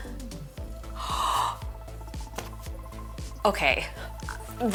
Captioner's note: gasps